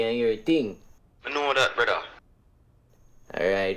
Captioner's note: phone voice